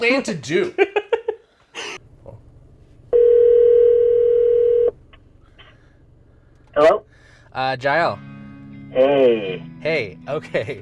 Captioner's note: phone ringing